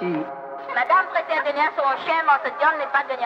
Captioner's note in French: voix de femme